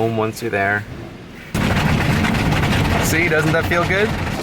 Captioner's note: thunk